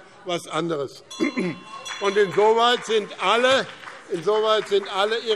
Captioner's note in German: Beifall BÜNDNIS 90/DIE GRÜNEN - Unruhe - Glockenzeichen